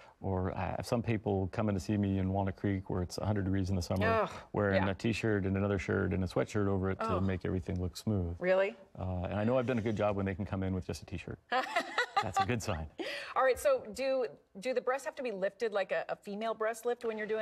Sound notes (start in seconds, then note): 4.0 groans; 6.4 groans; 11.5 laughs